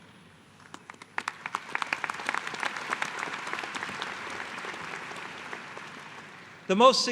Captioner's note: applause